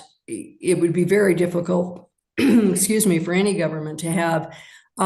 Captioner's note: coughs